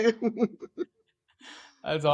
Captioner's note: laugh